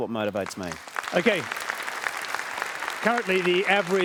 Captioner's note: applause